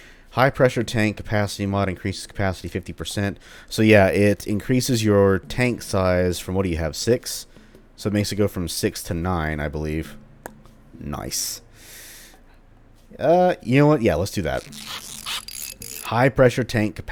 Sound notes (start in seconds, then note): 11.2 click; 14.4 tinkering noises